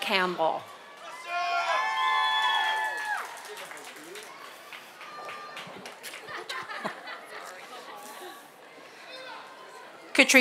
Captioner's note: applause and cheers